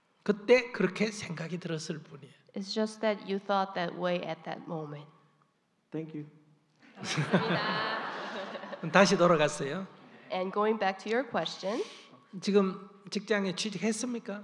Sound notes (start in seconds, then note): 6.9 audience/ Laughter